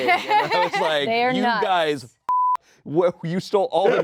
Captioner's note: beep